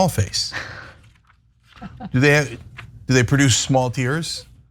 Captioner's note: laugh